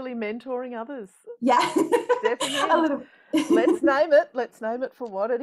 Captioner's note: laughs